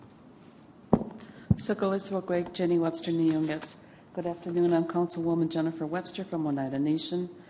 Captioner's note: native American language